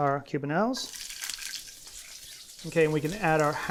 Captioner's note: oil sizzling